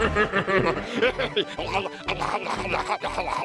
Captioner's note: munching loudly